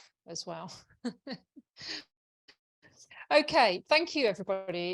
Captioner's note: chuckles